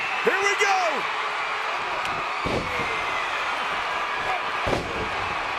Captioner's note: audience cheering